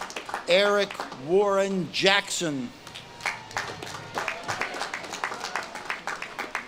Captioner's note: audience claps and cheers